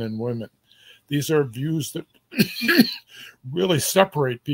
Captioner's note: cough